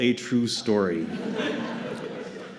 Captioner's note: laughter